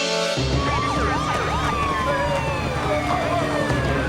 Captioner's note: sirens wailing